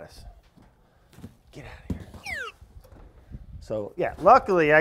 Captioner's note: slide whistle slides